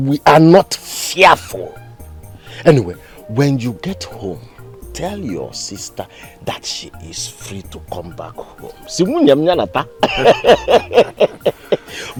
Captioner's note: laughter